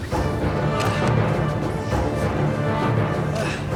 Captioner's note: Frazier grunting